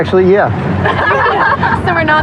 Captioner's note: lauaughteter